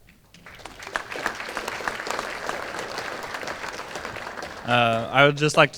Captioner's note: applause